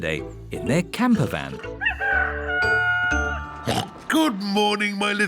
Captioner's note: daddy pig oinks; rooster crowing